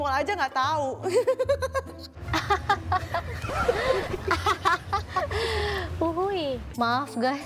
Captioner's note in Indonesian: Ketawa